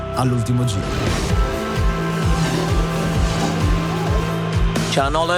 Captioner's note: kart sound and background music